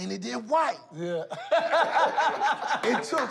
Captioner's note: laughter